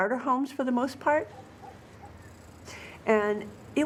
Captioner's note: dog barking in distance